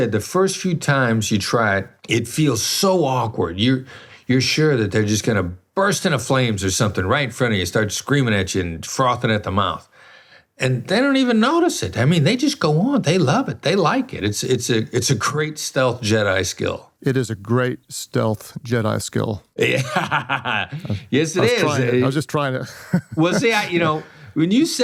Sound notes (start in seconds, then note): 19.6 laughs; 22.7 laughs